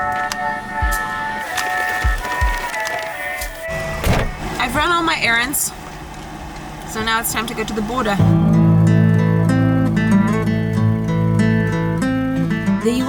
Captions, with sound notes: (paper crackling) I've run all my errands. So now it's time to go to the border. (ominous music)